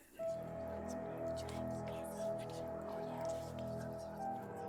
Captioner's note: the whispering starts again